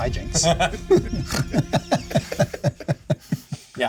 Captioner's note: laughter